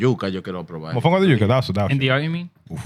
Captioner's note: speaking Spanish